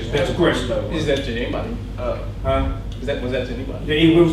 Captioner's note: voiceover; voiceover